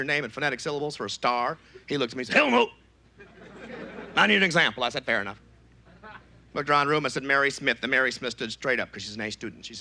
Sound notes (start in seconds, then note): 3.0 gruff voice; 5.0 normal voice